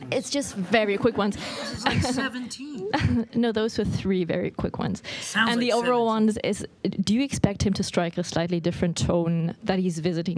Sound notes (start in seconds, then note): 2.8 laughter